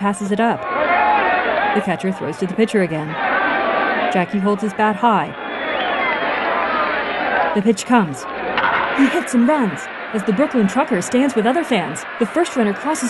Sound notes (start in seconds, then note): 3.4 scattered cheering and whistling; 8.7 crowd cheering